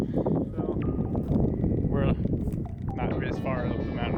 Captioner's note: wind blowing